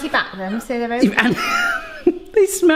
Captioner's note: laughs